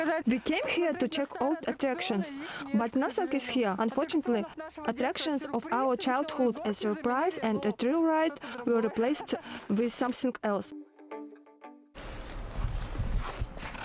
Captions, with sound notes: We came here to check old attractions, but nothing is here, unfortunately. Attractions of our childhood a «Surprise» and a «Thrill ride» were replaced With something else. [laugh]